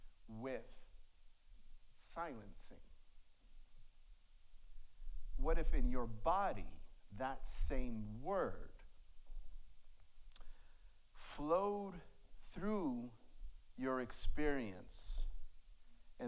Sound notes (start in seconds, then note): none